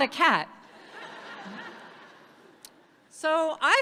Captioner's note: audience laughs